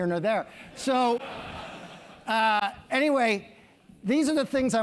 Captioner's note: laugh